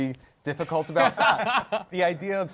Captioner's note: laughs